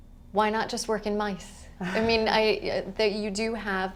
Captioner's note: chuckle